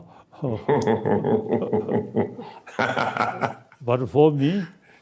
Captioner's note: Arthur laughs loudly